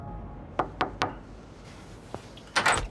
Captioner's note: knocking